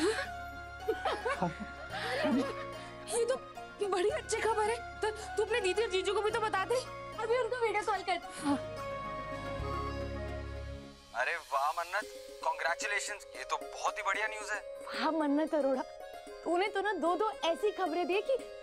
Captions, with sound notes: [laughing] Hey. This is great news. Tell Bani and Rajat about it. - I will make a video call to them right now. - Yes. Wow, Mannat. Congratulations. This is great news. Wow, Mannat Arora. You gave us two news